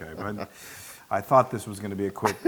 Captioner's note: laugh